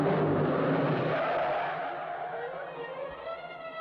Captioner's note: tires Screeching